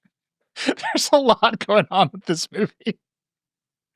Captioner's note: laughing; both laughing